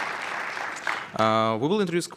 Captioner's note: applause